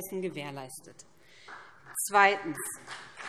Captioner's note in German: Beifall BÜNDNIS 90/DIE GRÜNEN